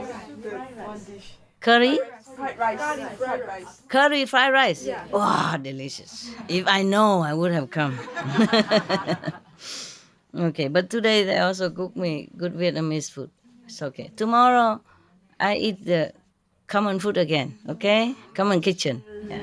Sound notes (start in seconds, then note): 12.7 Vietnamese